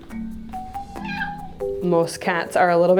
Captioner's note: Tobias meows